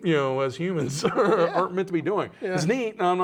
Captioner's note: laughing